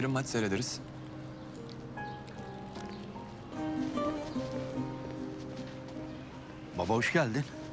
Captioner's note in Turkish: Sokak ortam sesi